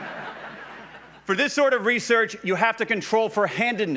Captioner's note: laughs